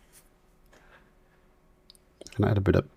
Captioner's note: silence